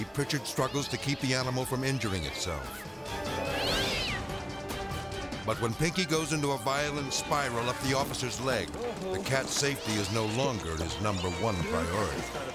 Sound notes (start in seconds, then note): 3.5 cat yowling